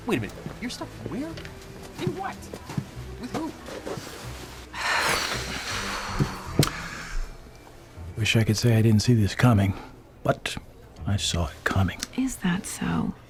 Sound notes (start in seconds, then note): 4.7 sighs heavily